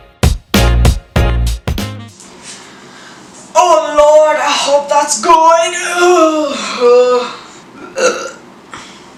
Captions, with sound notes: Oh lord, I hope that's good. [groan] [burp]